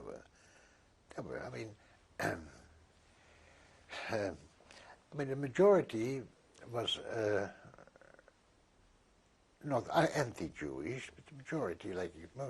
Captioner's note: sighs